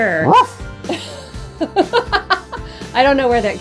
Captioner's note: laughs